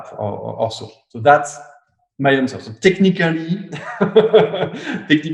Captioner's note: laughs